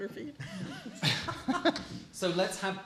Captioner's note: laughter